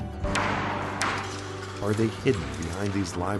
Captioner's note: hammer striking